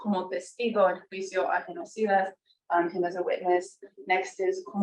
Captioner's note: speaking foreign language